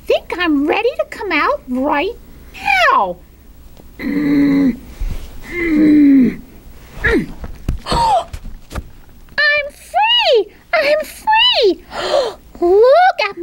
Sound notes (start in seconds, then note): 4.0 grunting noises; 7.9 gasp; 11.9 gasp